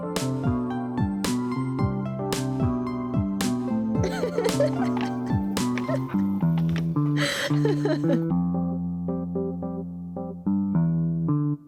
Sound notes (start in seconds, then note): 4.7 laughing; 8.8 upbeat music